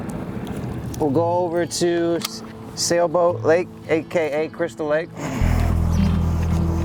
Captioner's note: grunts; gentle music continues